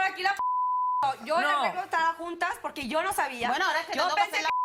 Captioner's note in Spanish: Bip; Bip